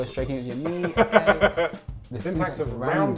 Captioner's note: laughing